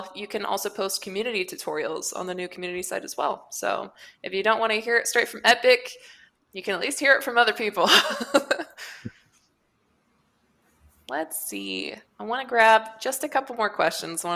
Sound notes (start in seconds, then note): 8.1 laughs